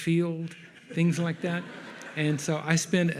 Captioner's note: audience laughs